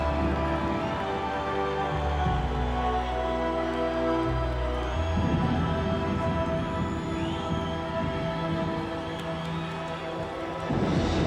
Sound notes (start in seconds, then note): 3.8 crowd cheering; 8.3 dramatic music